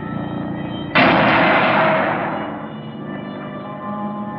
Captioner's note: banging; ominous music